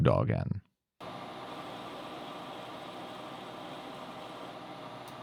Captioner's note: lathe whirring